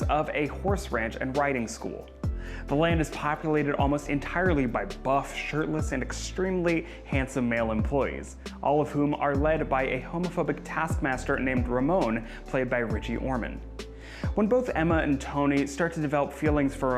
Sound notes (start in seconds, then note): none